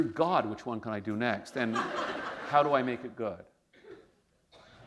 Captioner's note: laughter; pause